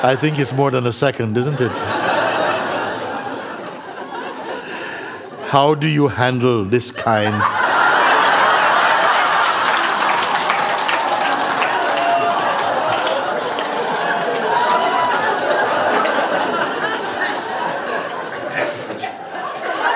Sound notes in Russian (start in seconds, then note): 1.3 смех; 7.3 взрыв смеха